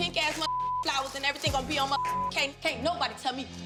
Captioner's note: beep